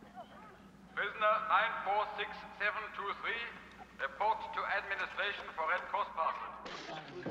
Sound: man on PA

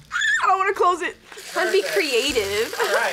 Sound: screams

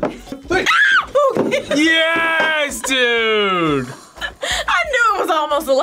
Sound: screams

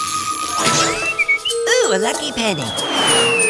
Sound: whistling

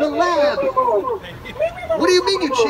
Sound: laughter

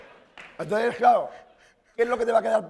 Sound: speaking spanish

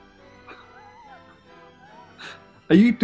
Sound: sniggering

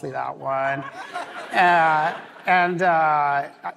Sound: laughter

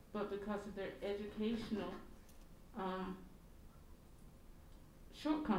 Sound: none

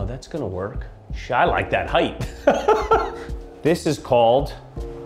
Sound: laughing

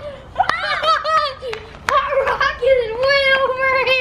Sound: loud shrieking

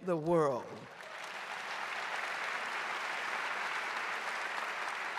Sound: audience applauding

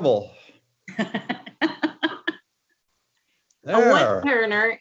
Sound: laughs

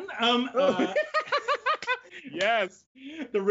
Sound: both laugh

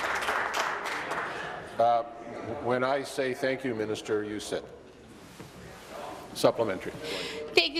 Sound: applause

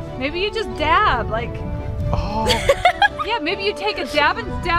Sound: laughing

